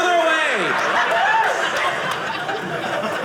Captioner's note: audience laughing